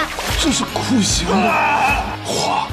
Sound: screaming

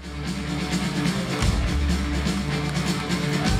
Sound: rock music; crowd cheering

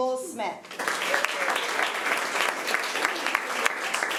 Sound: applause

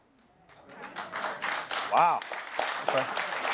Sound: applause

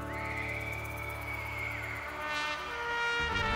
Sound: audience screaming

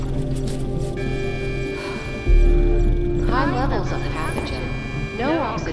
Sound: countdown alarm

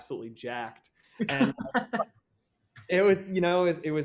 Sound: laugh

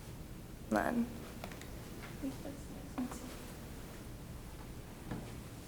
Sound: speaking off microphone

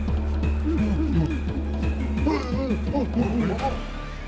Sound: tribal men grunt

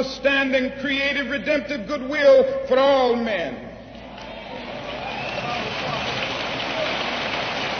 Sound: applause

